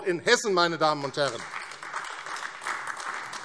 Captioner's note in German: Beifall AfD